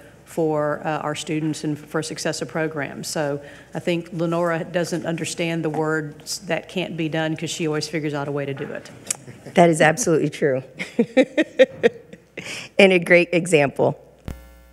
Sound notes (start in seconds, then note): 10.8 laughs